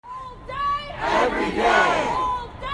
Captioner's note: crowd